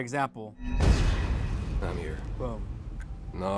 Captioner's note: explosion booming